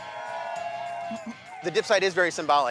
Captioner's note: people cheering